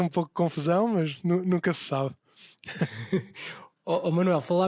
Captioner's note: laughs